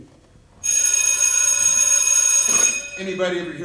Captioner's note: school bell